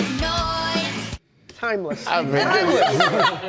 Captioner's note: laughter